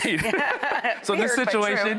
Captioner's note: laughing